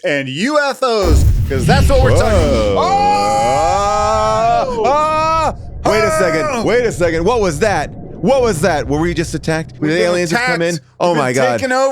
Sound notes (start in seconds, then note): 3.8 yells